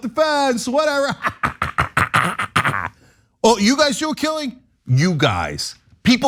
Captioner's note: laugh